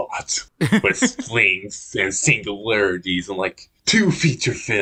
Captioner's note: laughs